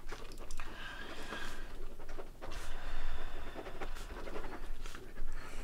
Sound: pen scratching on paper

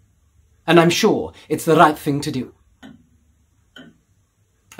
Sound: clock ticking

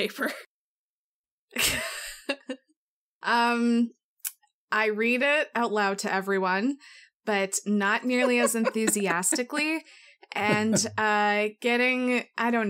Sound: laughs

